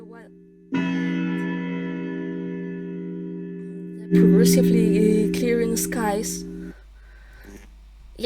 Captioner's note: clock chimes